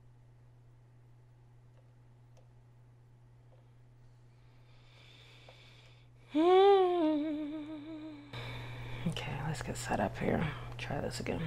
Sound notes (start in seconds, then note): 4.2 deep breath; 6.2 hums to self